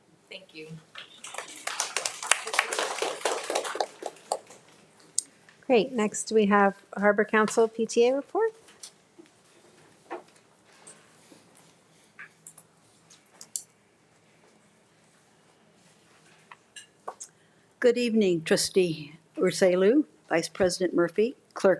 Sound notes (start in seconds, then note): 1.0 audience applauds